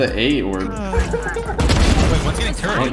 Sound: gun bangs

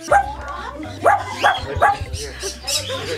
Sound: barking

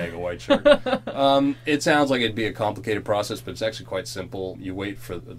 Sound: chuckles

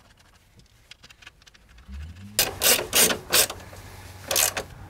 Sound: mechanical noise

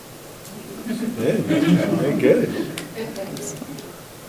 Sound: people laugh

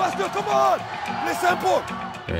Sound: crowd cheering

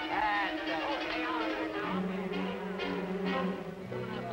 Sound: men talking

